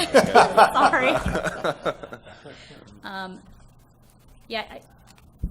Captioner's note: laughter